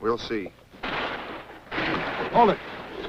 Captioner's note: explosion